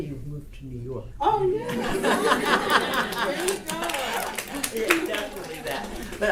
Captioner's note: audience laughter